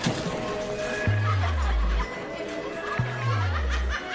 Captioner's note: laughter, indistinct conversations